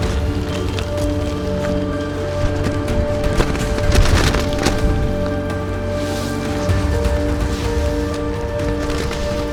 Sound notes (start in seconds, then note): 2.5 flapping noise from the tent